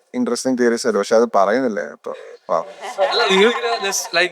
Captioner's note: laughs